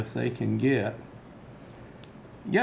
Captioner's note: click